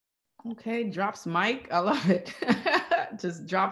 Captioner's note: laughs